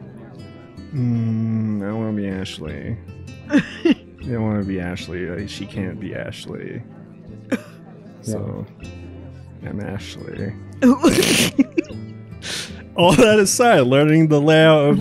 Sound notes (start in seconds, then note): 3.5 chuckles; 7.5 chuckles; 10.8 snicker